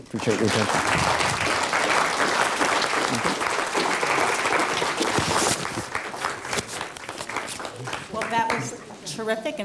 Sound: applause

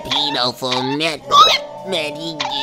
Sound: hiccup

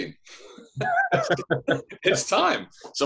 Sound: laughs

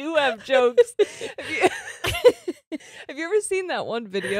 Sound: both laughing

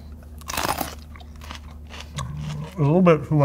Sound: pepper crunches

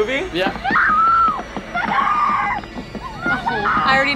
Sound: screams

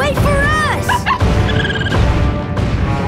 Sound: chirping

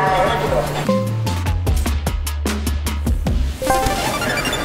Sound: active noise cancellation tone; transparency mode chime

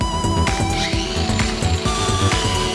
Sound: angle grinder whirring

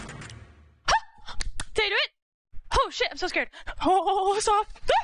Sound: yelps in excitement; yelps in surprise, laughs

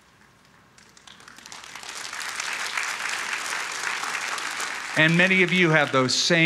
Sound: applause

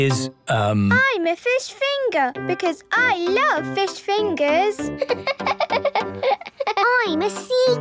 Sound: laughing

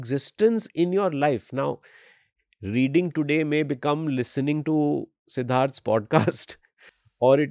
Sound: chuckles

